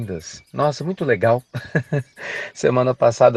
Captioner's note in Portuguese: Risos